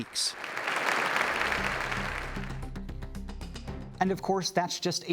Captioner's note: applauding; intense music begins